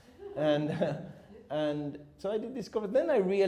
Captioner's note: chuckles